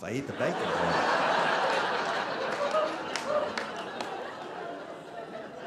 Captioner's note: audience laughing